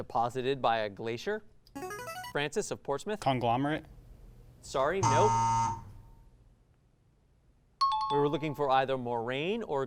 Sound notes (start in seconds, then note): 0.2 ring-in sound; 5.0 buzzer sound